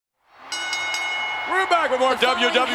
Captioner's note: audience cheers; bell rings